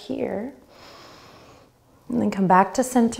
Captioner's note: inhaling